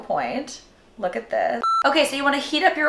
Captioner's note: beep